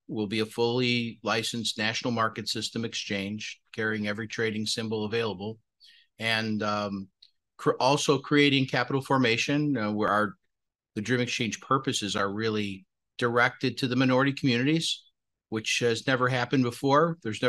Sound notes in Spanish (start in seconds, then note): 4.1 HABLA EN INGLéS